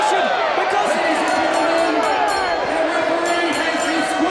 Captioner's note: bell rings